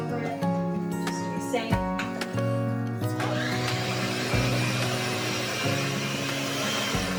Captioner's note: blender whirs